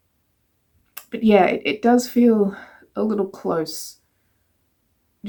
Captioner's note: smacks lips